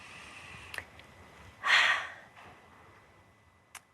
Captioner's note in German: atmet hörbar aus